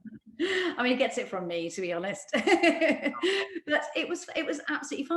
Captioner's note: laughs; laughs